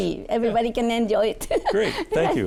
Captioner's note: laughing